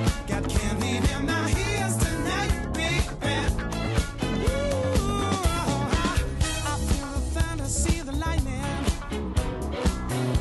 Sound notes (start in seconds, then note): none